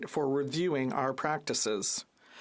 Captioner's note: speaking French